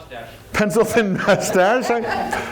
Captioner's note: chuckle